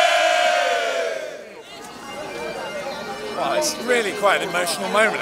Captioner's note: cheering